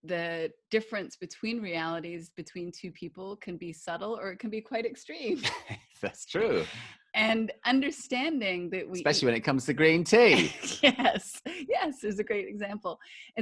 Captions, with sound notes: the difference between realities, between two people can be subtle or it can be quite extreme. - [Laughs] That's true. - And understanding that we - Especially when it comes to green tea! - [Laughs] Yes, as a great example!